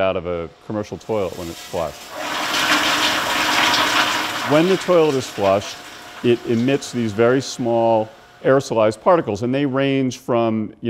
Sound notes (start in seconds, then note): 2.1 toilet flush